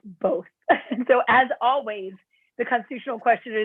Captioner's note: laughter